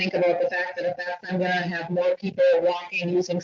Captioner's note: distorted audio